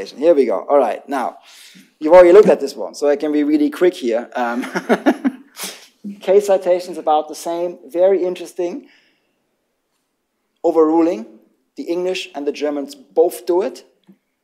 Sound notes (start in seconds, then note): 4.5 laughter